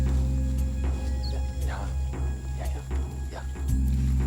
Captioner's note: whispering